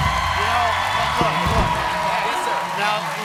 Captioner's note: cheers and applause